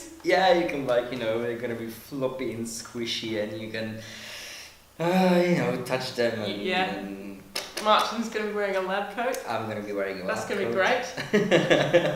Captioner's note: laughs